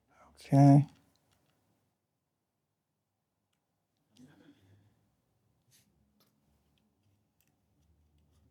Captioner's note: silence